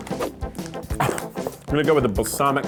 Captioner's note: laughs